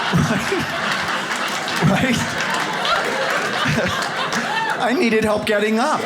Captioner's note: audience laughs